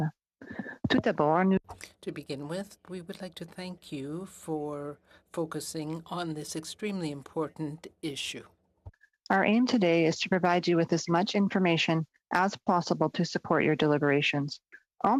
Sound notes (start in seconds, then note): 5.0 speaking French